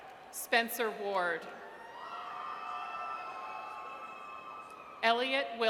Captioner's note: audience cheers